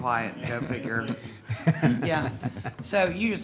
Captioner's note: laughing